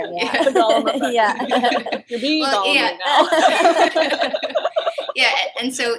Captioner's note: laughter